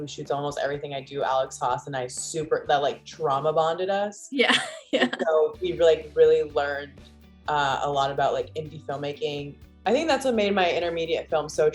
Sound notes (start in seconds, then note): 4.6 laughing